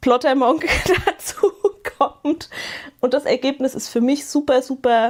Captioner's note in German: gelächter